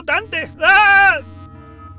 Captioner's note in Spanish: ríe